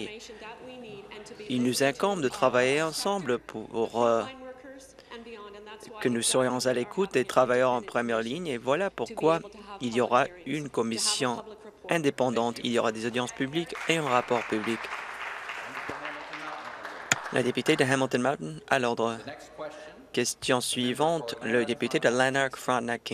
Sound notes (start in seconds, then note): 17.5 applause